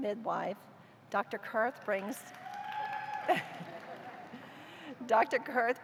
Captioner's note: cheers; laughter